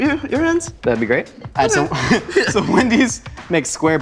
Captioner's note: laughing